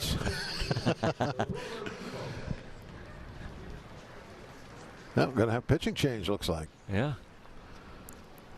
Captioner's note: laughter